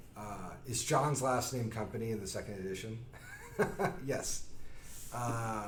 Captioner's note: laughs